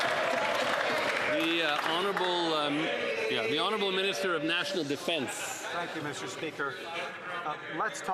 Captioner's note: some Applause